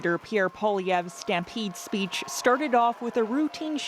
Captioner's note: cheering